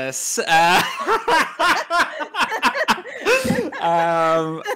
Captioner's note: laugh